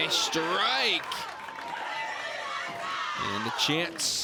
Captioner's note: crowd cheers and applauds